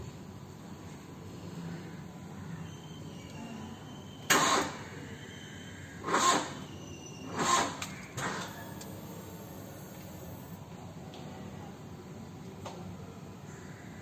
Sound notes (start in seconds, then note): 4.2 ignition sound Engine not starting